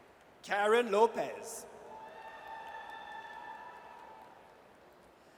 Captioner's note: audience cheers